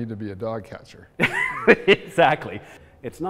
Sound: laughs

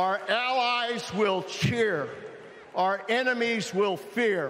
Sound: cheering

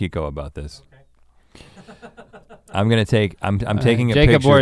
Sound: laughs

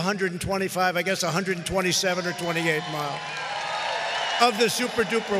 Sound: audience cheering

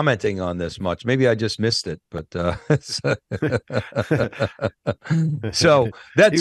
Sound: laughs

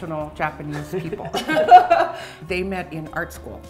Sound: laughing

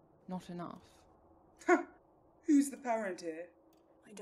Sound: Orion scoffs

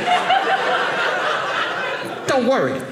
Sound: audience laughing

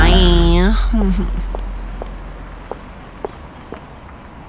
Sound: footsteps

